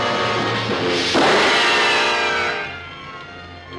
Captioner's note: gun firing